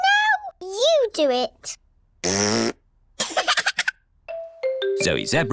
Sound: laughs; blows raspberry

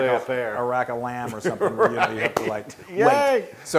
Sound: laugh

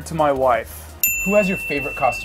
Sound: bell rings

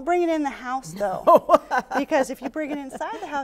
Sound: laughing

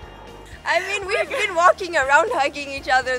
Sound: laughing

